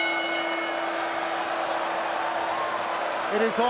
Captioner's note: bell rings; audience cheers